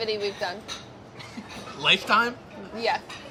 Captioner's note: laughing